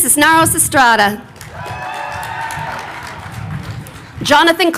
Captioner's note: crowd cheering